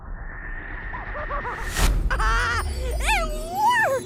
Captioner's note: laughing